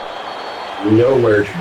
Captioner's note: crowd Noises